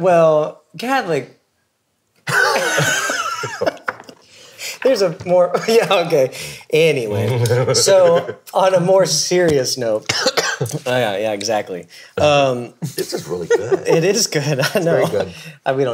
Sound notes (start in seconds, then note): 2.2 all laughing; 7.2 laughs; 10.1 coughs